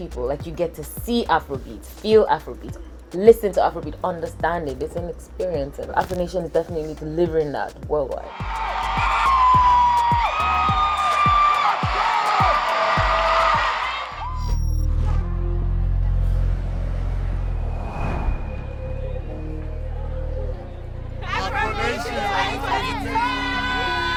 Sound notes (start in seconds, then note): 8.3 audience cheering